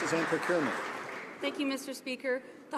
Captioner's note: some Applause